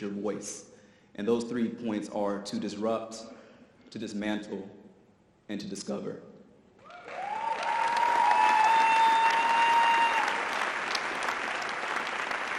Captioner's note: audience applause